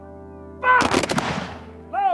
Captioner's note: rifles firing